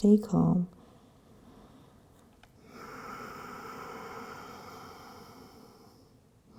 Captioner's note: deep breathing